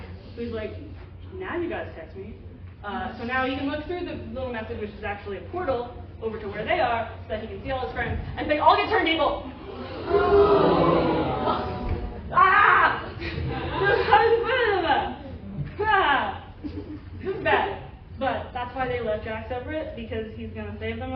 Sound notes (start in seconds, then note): 9.5 sad audience noises; 9.6 distressed me noises